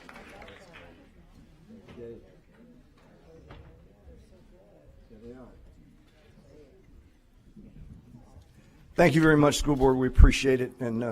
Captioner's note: applause